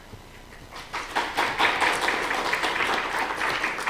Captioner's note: applause